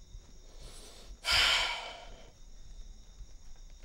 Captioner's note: Sighs